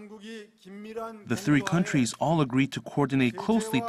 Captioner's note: Korean